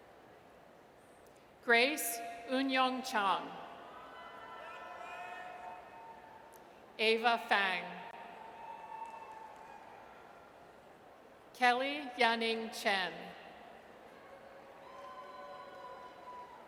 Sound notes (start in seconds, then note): 4.0 audience cheers; 8.4 audience cheers; 14.2 audience cheers